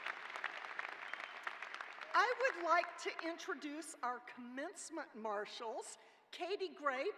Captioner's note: cheers and applause